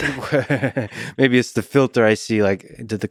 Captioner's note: laughs